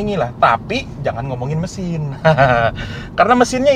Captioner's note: laughing